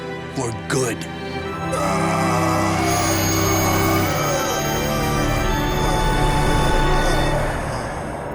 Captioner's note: groaning